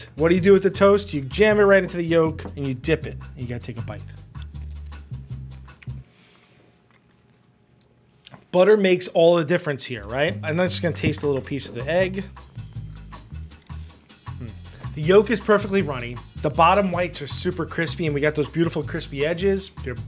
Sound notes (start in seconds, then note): 4.5 toast crunches; 12.5 gentle music